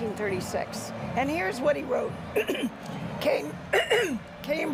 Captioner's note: coughs